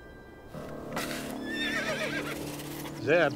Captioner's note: dramatic music; horse neighs